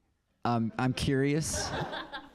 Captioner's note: audience laughing